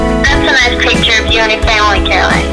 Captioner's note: woman Over Phone